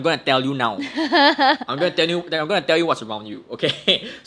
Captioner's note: laughs